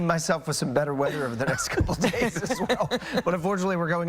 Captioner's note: laughter